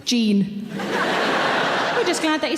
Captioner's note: audience laughs